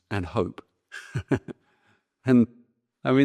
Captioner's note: laughs